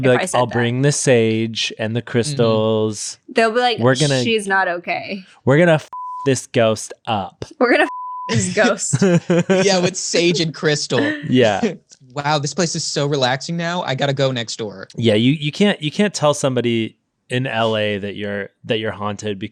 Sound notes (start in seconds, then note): 5.9 beep; 7.8 beep; 8.3 laughing